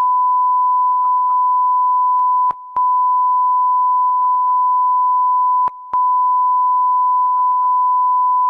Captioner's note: none